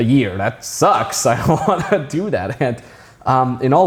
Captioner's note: chuckling